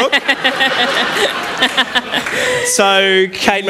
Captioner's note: laughter